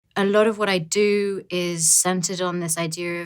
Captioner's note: voiceover